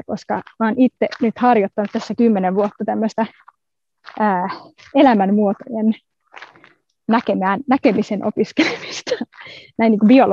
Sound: laughs

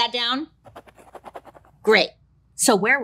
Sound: pen scribbling

